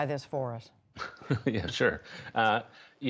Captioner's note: laughter